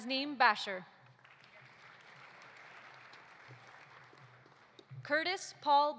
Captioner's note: audience applauding